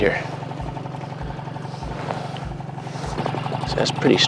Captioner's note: boat motor hums